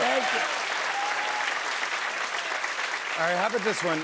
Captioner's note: cheers and applause